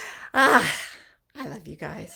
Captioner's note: sighs